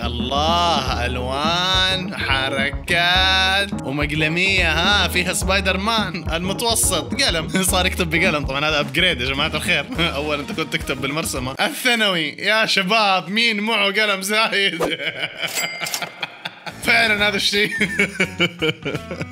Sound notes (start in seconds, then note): 14.6 laughter